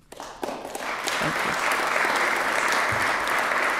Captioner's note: applause